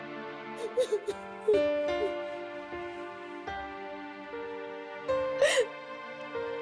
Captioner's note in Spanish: Sollozos